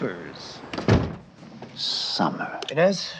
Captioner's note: door slams